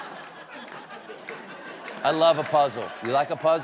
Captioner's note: laughter